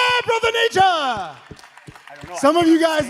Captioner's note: audience clapping